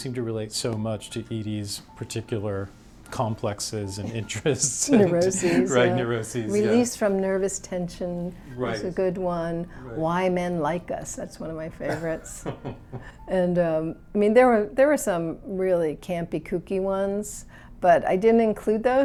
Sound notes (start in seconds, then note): 4.0 chuckles; 11.8 chuckles